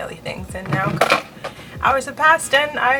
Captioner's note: drops blow dryer